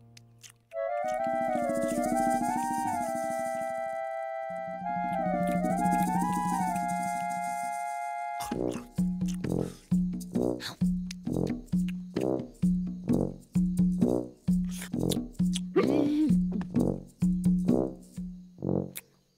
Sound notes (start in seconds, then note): 9.6 Hamilton gasping; 13.0 sluggish chewing